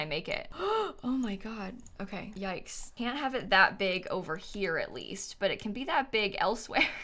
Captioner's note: gasps